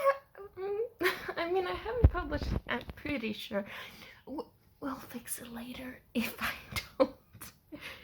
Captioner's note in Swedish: viskandes